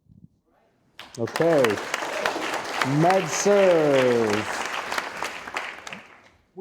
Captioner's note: audience applauding